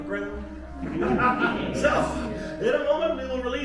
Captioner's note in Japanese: 爆笑